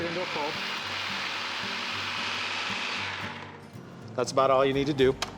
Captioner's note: buzzing, blending sound